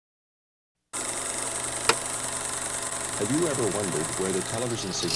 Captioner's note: projector clicking